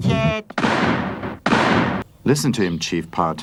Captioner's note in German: Schüsse